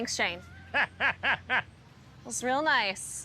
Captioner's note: laughs